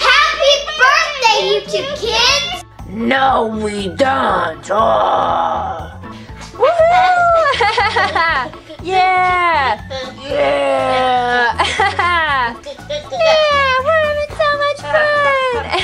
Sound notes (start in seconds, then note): 6.6 cheering; 15.5 giggles